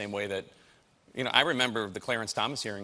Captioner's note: none